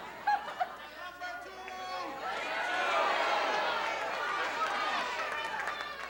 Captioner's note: audience shouting